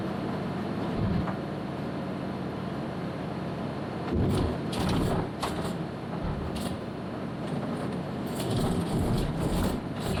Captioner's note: sound of van bumping over pot-holed track